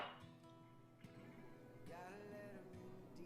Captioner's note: glass clanks